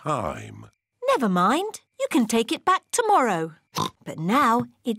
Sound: oinks

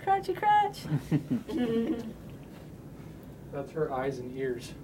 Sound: laughter

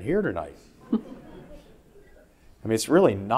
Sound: audience laughing

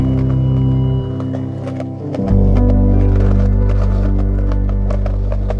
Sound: skateboard wheels rolling

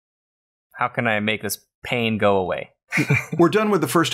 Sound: chuckles

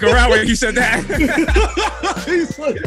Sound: desus and mero laugh

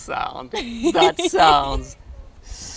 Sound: laughing

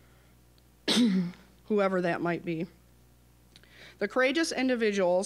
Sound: coughing

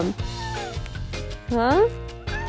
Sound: meowing

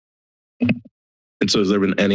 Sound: silence; mic thump

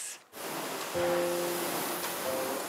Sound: vacuum whines

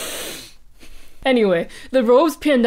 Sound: sniiiiff

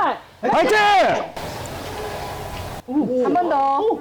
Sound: echo

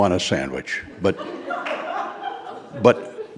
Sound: audience laughing

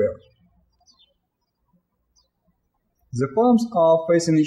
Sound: birds chirping

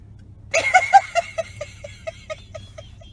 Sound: laughter

